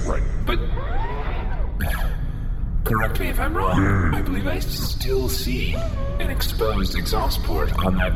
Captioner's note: sighs